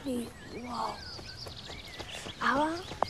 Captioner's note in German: Vogelgezwitscher